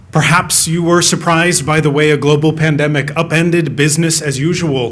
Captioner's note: none